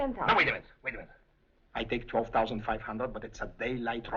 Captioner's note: chuckles